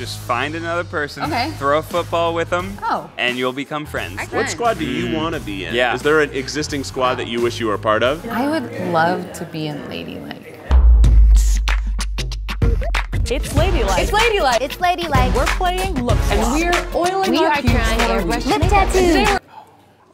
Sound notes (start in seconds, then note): 10.8 pop music; 13.9 voiceover; 16.4 voiceover